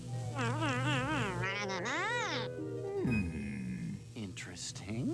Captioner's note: squeaking